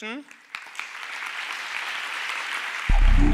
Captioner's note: audience applauding; synth echoing